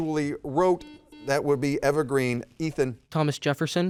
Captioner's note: buzzer dings